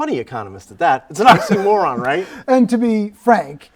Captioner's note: both laughing